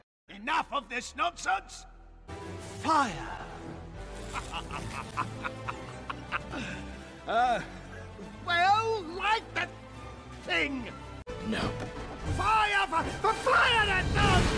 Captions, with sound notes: - Enough of this nonsense!!! Fire. (evil laugh) Well, light the thing! - No. - FIRE, F- FIRE THE GUN!!!